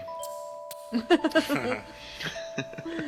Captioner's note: hahaha, hahaha…